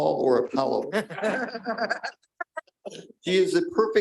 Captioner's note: chuckling